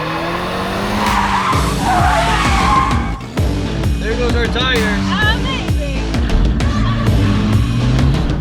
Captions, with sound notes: (tires squeal) - There goes our tires. - Amazing.